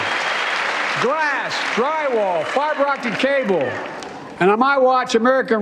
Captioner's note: cheers and applause